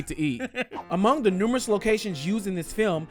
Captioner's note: laughs